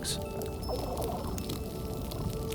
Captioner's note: fish burbling